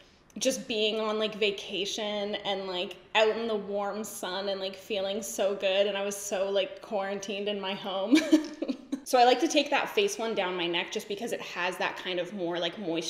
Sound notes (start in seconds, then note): 8.1 giggles